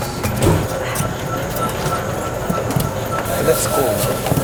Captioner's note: whirring